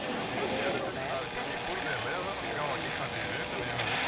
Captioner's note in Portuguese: Locução de rádio ao fundo